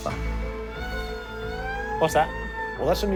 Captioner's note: siren wails